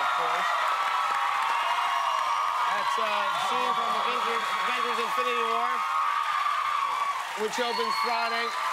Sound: cheers and applause

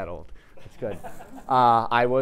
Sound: audience laughing

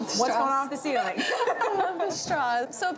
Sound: laughing

